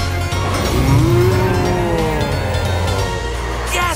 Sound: roaring

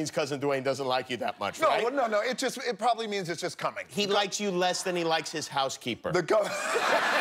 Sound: laughter

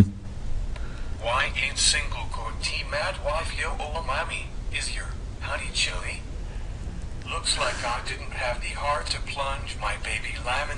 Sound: TTS reading

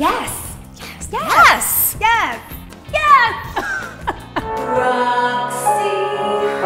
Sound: laughing

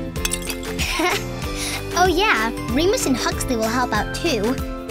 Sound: laughing

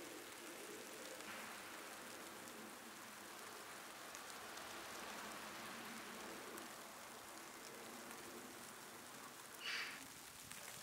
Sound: snow flurry, background noise; snow flurry, moving car, bird; snow flurry, bird

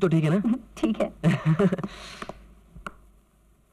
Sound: chuckles

